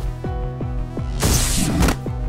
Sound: zap

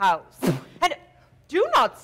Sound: Sharik loudly spits

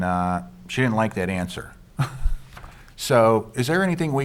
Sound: chuckles

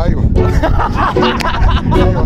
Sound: laughing

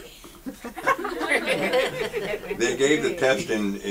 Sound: audience laughs

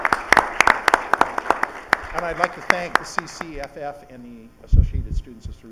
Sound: clapping

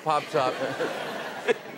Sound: laughter

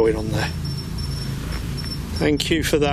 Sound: device beeps

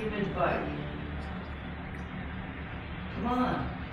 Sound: whispering

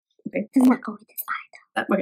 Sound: whispers

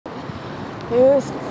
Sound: Traffic; sings loudly

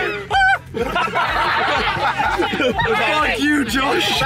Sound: all laughing

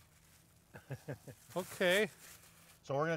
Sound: laughing

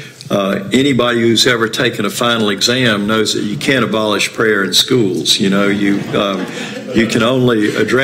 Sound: laughter

